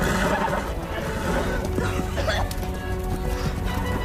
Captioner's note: coughing